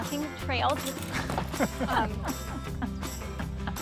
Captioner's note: laughs